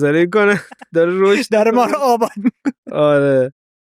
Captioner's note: laughs